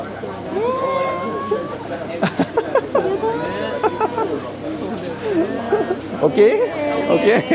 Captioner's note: laugh